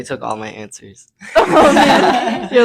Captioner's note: laughing